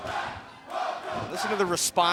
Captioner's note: fans chanting